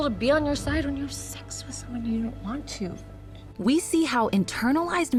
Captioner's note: whispers